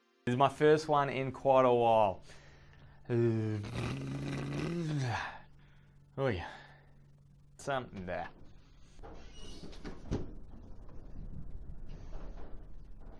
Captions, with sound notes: This is my first one in quite a while. (blowing raspberries) Oy. Some, eh. (creaking)